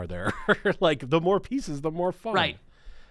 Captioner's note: chuckling